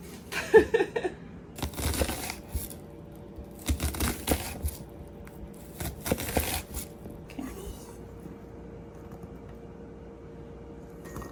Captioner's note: ambient noise while chopping of up vegetables